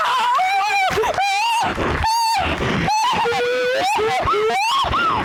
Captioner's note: both crying